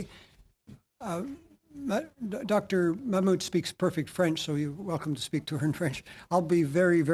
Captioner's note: speaking French